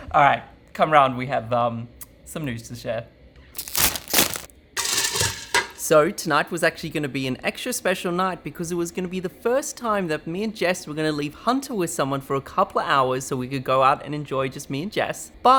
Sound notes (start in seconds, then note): 3.5 ice crunching; 3.5 sachet rustling